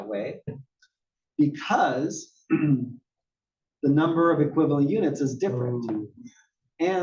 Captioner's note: cough